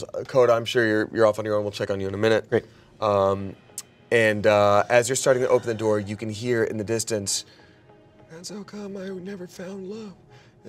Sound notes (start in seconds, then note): none